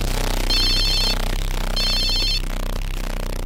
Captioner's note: phone ringing